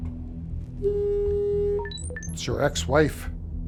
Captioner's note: phone beeps